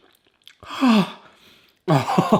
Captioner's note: sighs; laughs